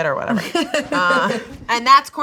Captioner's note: laughing